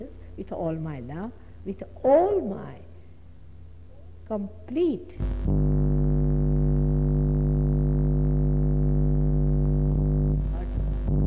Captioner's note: noise in mp3